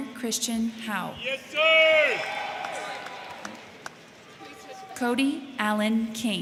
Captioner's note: crowd cheering; crowd clapping